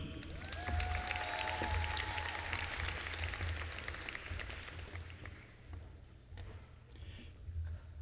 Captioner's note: applause